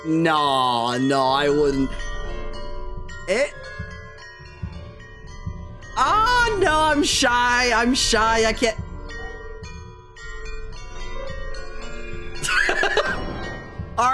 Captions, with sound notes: Nah, no, I wouldn't. Eh? [Heartbeat] Oh, no, I'm shy. I'm shy. I can't.